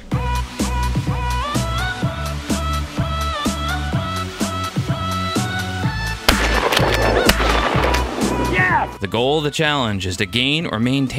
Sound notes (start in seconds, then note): 0.2 funky music; 6.2 gunshots